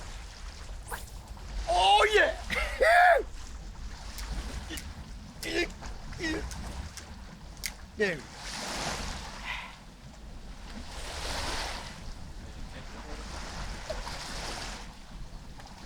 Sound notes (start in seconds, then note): 1.5 line thwacking; 6.1 Nolan grunts; 10.1 water splashing